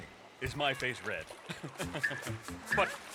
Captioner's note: announcer chuckles awkwardly